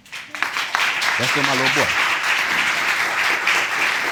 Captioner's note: audience applauding